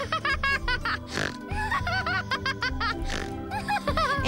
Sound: laughing

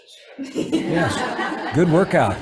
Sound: everybody laughs

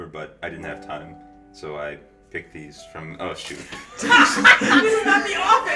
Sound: laughter

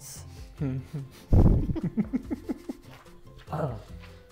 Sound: Joshua laughing

